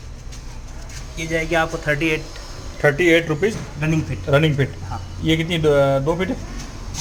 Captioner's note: running feet